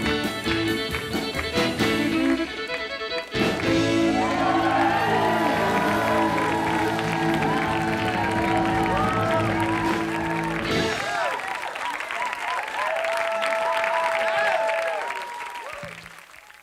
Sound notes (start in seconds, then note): 3.4 applause